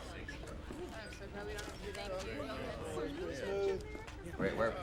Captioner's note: background conversations